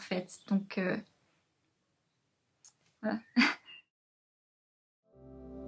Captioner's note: laughs